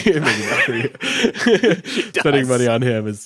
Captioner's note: both laughing